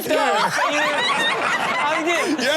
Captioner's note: all laugh